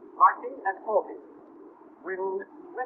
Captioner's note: silence